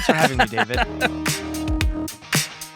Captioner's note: laughing